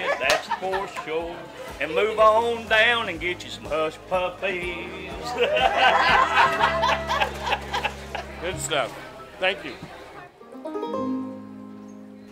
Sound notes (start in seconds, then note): 5.1 crowd laughs; 5.3 laughs; 10.7 music fades